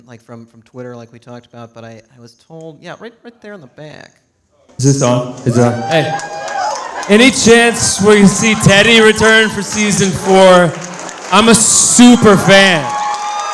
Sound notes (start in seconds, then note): 6.3 audience cheering; 13.3 audience cheering